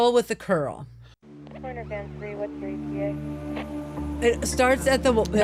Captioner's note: police radio chatter